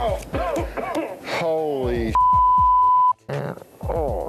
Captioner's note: beep